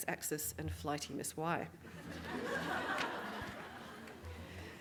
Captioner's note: audience Laughing